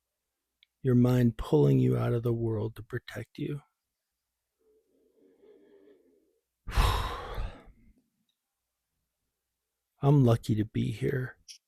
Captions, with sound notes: Your mind pulling you out of the world to protect you. (sigh) I'm lucky to be here.